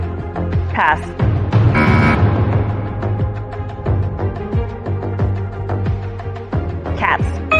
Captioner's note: buzzer sounds